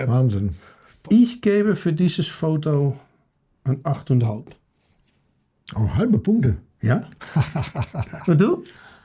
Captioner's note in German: gelächter